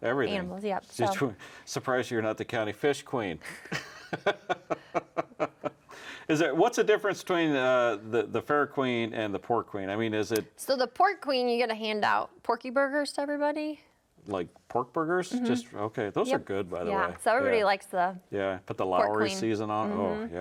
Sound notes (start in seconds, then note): 3.6 laughing